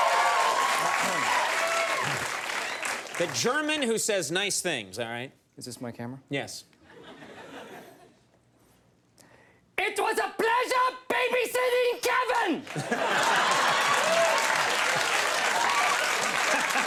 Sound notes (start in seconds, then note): 0.0 audience cheers; 6.9 audience laughs; 9.5 imitates German accent; 12.6 audience cheers; 12.7 laughs